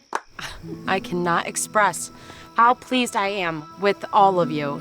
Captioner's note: chuckles